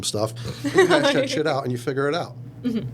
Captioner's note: laughing